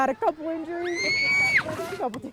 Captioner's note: kid screaming